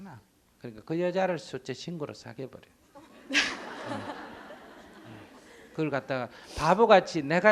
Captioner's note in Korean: 질문자 웃음